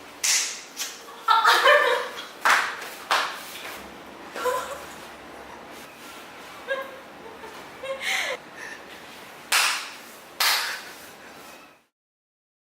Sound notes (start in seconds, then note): 0.2 clap; 1.0 laughing; 7.2 laughing